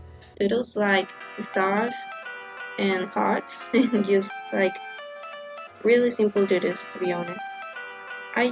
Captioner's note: giggle